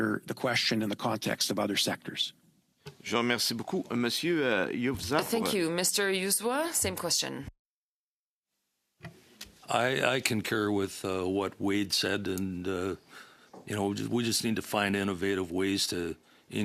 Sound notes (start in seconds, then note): 9.2 speaking French